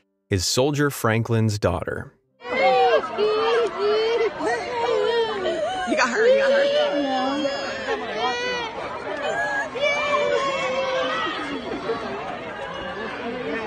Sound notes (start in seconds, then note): 3.2 chattering; 6.0 crying